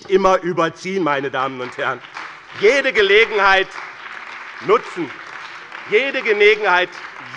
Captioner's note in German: Beifall bei dem BÜNDNIS 90/DIE GRÜNEN und der CDU